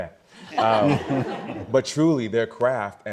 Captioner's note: all laughing